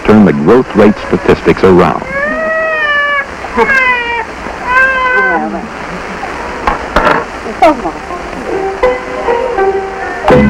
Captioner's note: the baby begins crying